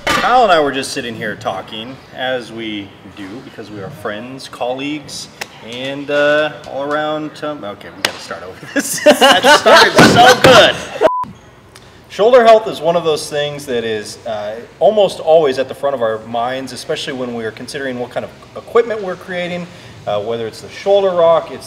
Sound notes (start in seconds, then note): 8.6 laughs; 11.0 beep